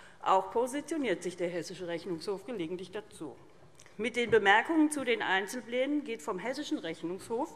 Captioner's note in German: none